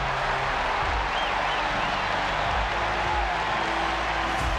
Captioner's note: crowd cheering